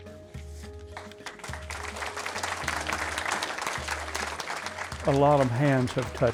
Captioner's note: audience applauding